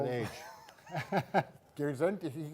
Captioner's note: both laugh